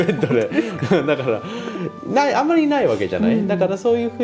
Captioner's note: laughs